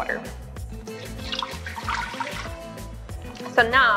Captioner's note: trickling water